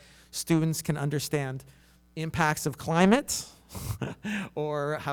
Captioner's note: chuckles